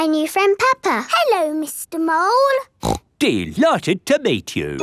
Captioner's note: snorts